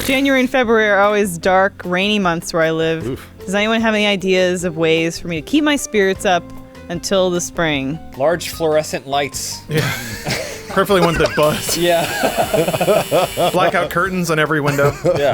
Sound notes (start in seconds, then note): 9.7 laughter; 11.0 buzzing; 12.3 laughter